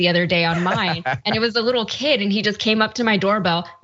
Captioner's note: laugh